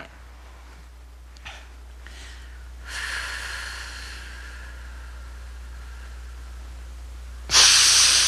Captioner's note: breathing; breathing